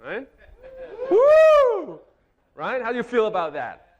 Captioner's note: audience cheering